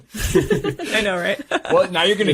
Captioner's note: laughing